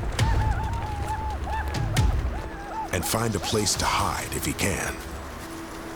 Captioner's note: whooping